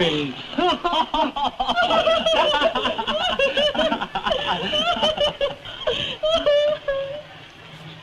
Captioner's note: laughter